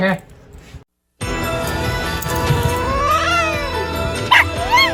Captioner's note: Ella barks and howls; Caprice hisses, then growls